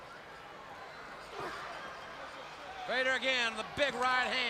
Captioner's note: crowd chatters